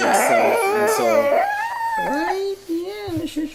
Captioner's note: babbling